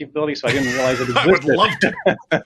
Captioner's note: both laughing